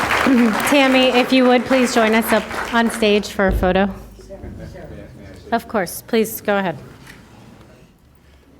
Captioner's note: applause